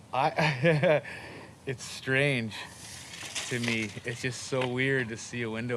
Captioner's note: chuckling